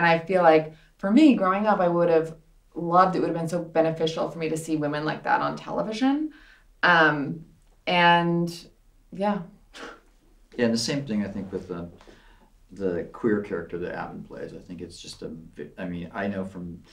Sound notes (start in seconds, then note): none